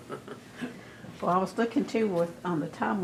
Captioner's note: laughs